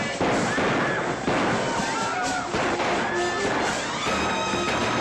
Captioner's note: gunshots; women screaming; commotion & gunshots; dramatic music